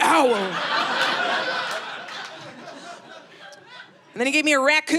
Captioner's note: audience laughing